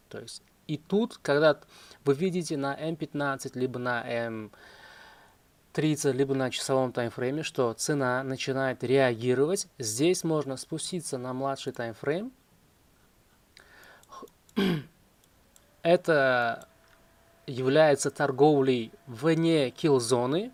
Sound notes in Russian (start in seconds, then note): 14.5 откашливается; 14.5 кашель